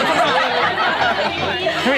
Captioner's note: laughter